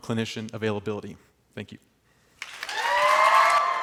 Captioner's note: applause